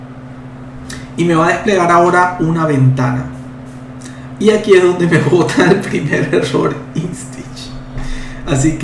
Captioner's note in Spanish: risas